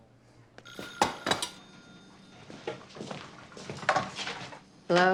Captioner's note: telephone ringing